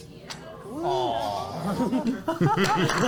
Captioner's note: audience awws